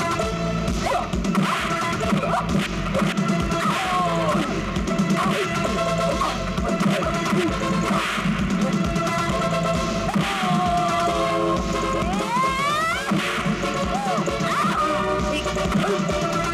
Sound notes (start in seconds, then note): 10.4 groans; 12.0 grunts